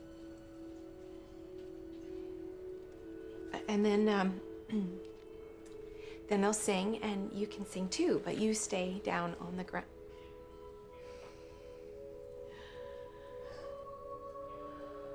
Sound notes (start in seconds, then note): 11.0 quiet gasp